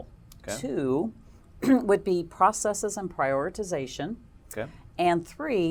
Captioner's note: cough